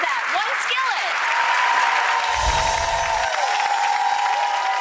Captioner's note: applause